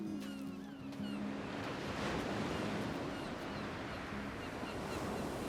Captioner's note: waves crashing, seagulls cawing